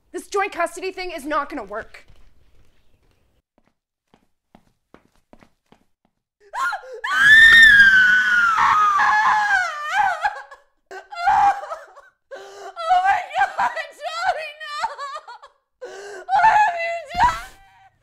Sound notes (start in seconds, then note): 3.7 footsteps pattering; 6.5 mother screaming; 10.8 mother sobbing